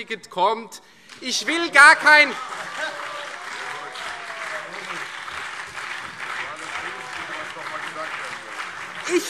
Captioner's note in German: Demonstrativer Beifall CDU und BÜNDNIS 90/DIE GRÜNEN